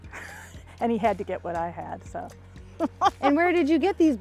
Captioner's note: laughs